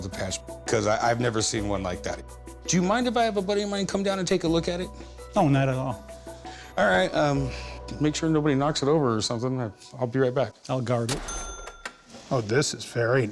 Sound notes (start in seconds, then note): none